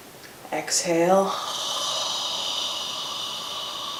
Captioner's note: exhales